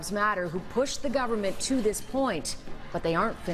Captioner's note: crowd din